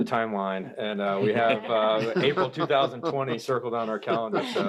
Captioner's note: everyone laughs